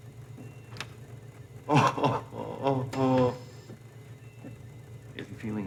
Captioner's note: Donald groans